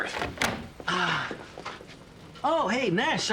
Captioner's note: Joe sighs